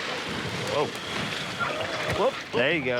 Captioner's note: Segways whirring